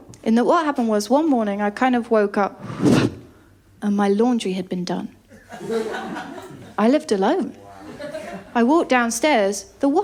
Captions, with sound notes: What happened was one morning I kind of woke up and my laundry had been done. [LAUGHTER] I lived alone. I walked downstairs.